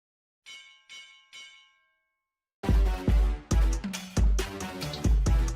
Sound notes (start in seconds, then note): 0.4 bell ringing; 2.6 upbeat music